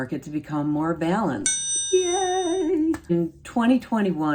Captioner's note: bell dinging